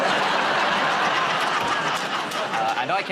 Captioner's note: laughter